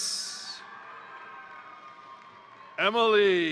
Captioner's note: crowd cheering; crowd applauding